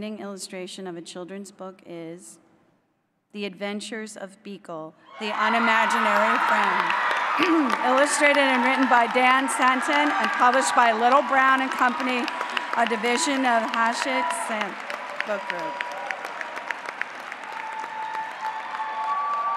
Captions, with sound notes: illustration of a children's book is “The Adventures of Beekle: The Unimaginary Friend,” [APPLAUSE] [CHEERING] illustrated and written by Dan Santat and published by Little, Brown and Company, a division of Hachette Book Group, Inc.